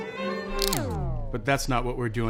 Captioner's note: record winds down; cap twists